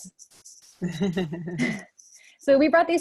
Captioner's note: laughs